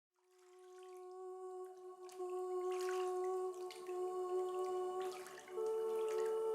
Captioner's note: water swishing; serene music